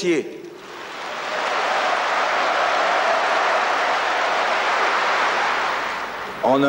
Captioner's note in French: vifs applaudissements